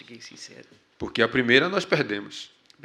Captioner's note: speaking portuguese